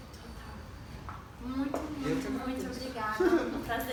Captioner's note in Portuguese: risos